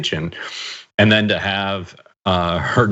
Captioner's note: laugh